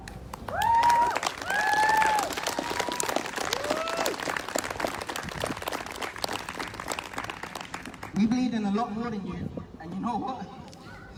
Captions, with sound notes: [Whooping] [Applause] “We’re bleeding a lot more than you, and you know what?